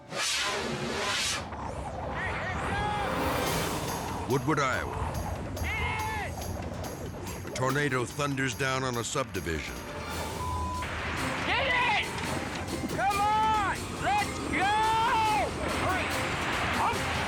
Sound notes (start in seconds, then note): 0.2 dramatic air whoosh; 5.9 wind howling; 9.8 dramatic air whoosh; 14.5 dramatic music